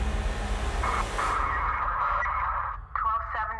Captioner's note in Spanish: música dramática; charla en la radio de la policía